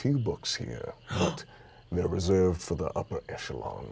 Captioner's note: gasps